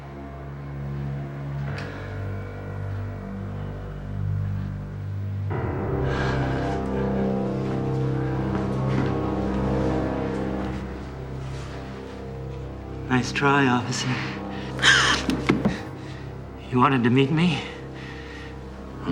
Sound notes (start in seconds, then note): 0.9 intense music playing; 6.0 heavy breathing; 14.7 gasps